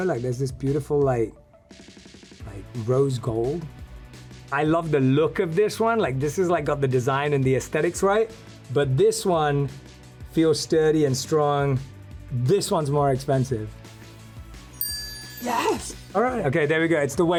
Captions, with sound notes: Like, there's this beautiful like rose gold. I love the look of this one. Like this is like got the design and the aesthetics, right? But this one feels sturdy and strong. This one's more expensive. (chime dings) Yes! All right. Okay. There we go.